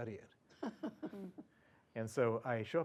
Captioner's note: laugh